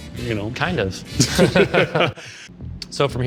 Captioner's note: laugh